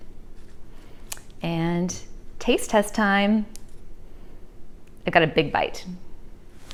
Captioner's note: chews